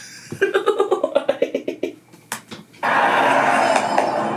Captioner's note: laughs